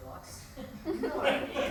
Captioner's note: laughs